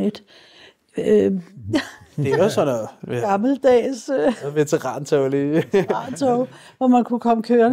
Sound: laughs

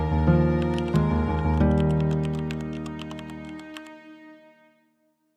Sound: keyboard typing

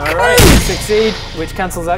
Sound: bang!

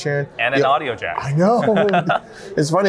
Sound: laughs

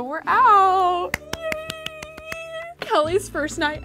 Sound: squealing

